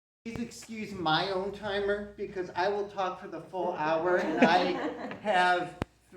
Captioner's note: CROWD laughs